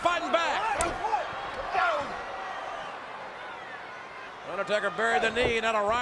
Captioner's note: crowd shouting